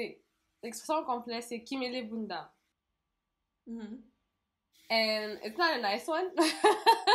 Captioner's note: laugh